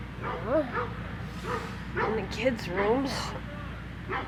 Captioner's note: groans